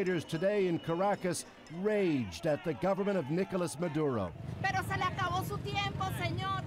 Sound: yelling

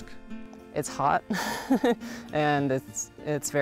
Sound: laughs

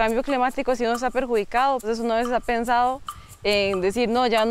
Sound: speaking Spanish

